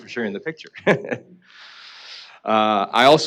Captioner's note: laughing